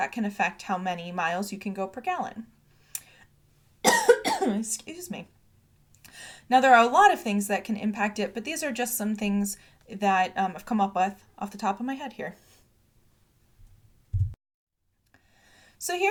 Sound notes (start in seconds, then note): 3.8 coughs